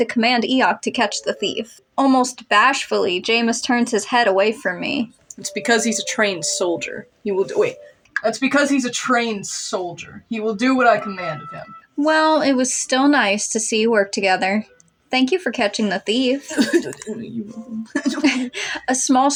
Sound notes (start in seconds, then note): 16.4 murmurs Grumpily; 16.4 chuckle